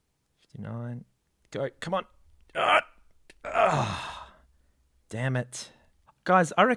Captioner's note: straining; sigh